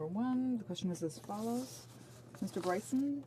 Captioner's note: speaking French